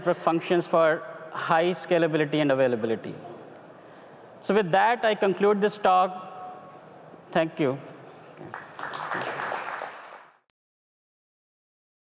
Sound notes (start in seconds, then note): 8.4 applause